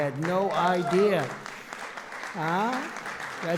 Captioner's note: applause